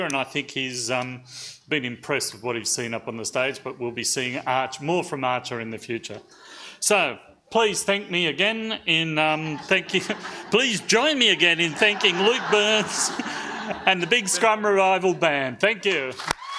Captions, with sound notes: and I think he's been impressed with what he's seen up on the stage, but we'll be seeing more from Archer in the future. So please thank me again in thanking... (audience laughs) So please join me again in thanking Luke Byrnes and The Big Scrub Revival Band, thank you.